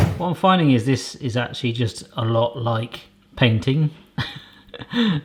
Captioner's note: laughs